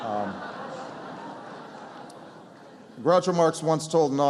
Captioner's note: laughter